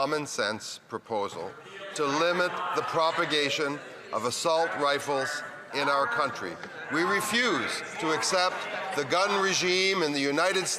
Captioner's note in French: voix de l'interprète